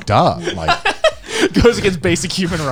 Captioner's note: laughing